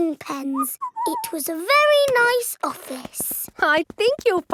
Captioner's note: whistles